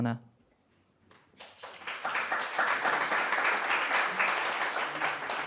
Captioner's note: applause